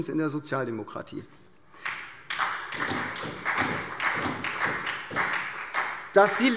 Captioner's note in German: Beifall SPD